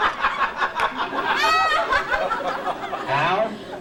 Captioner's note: laughter